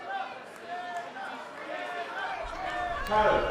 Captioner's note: fans chanting